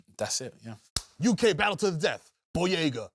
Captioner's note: claps